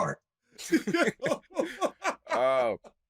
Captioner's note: laughter